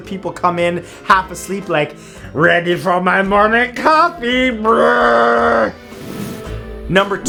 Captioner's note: groans